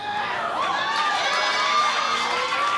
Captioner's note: cheers